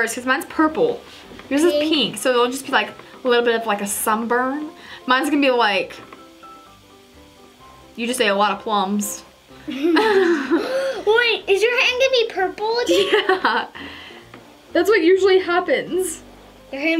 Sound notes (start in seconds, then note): 9.7 laughing; 12.9 chuckling